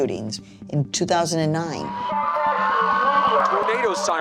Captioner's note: sirens blaring